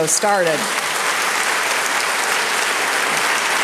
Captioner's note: applause